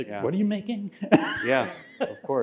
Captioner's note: laughter